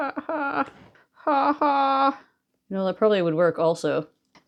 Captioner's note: laughs